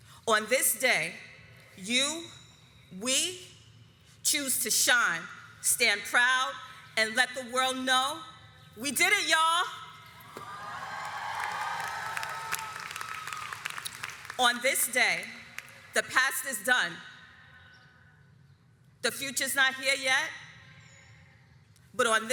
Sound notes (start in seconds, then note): 10.3 audience cheers